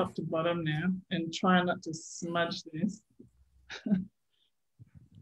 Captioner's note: chuckles